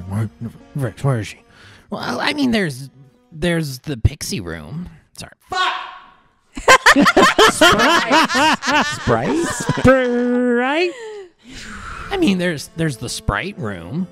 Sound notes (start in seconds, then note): 6.7 leaning away from mic, yells; 9.6 laughter